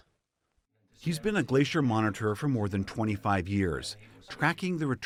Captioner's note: voice-over